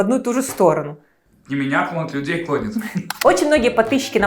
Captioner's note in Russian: закадровый голос